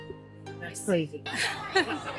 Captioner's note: laughter